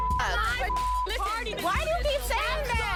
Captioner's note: beep